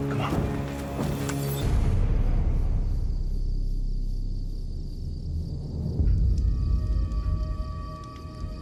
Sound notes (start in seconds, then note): 4.3 crickets chirping